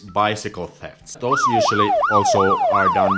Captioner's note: siren wailing